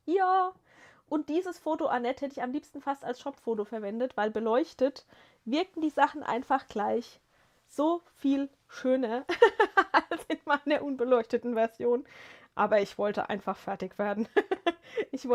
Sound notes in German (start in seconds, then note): 9.2 gelächter